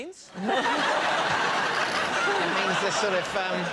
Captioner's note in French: rires